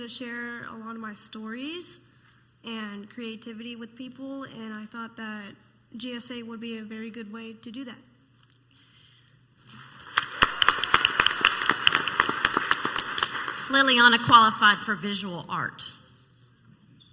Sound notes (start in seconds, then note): 10.0 clapping and cheering